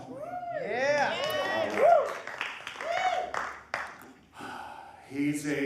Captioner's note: applause